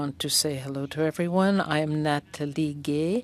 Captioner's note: speaking french